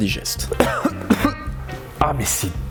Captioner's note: spits out